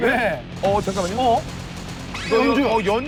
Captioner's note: shoot-out continues without a break